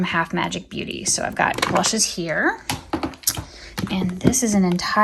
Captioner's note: item thudding